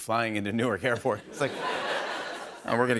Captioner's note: laughter